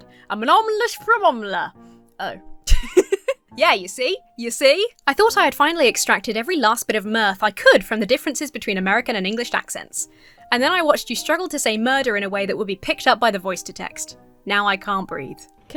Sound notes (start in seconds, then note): 2.6 laughs